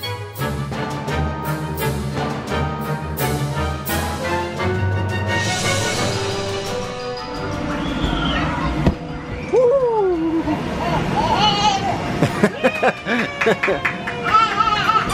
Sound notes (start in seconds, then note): 11.6 giggles; 12.4 laughing